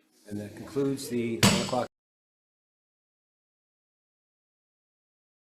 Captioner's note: gavel thuds